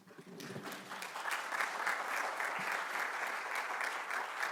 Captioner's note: audience clapping